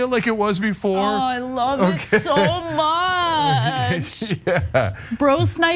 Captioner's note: laugh